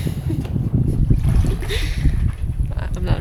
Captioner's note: laughs